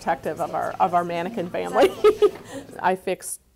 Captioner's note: laughing